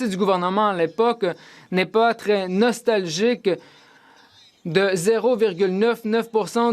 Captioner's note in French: voix de l'interprète